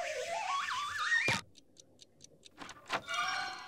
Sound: ticking

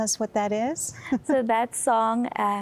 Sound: giggling

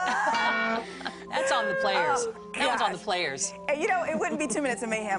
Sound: laughter

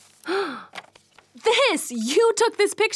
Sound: gasps

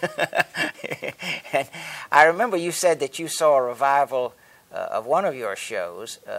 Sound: laughs

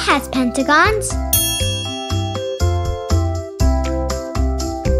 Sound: bell dings

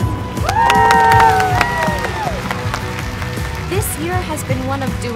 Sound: everyone cheers; hands clapping

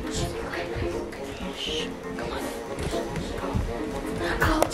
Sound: shushing

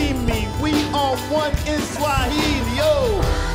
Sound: woo

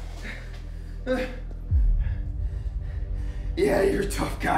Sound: grunting

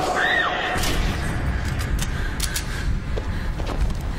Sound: Rachel screaming

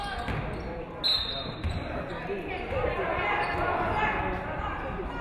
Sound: referee whistles

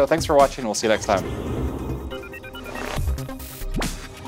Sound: air whooshing; dynamic electronic music

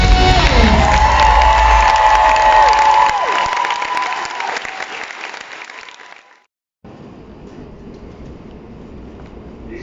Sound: applause

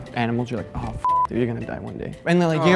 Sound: beep

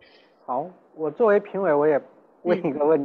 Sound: Mandarin

